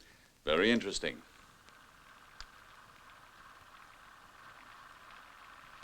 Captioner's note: projector whirring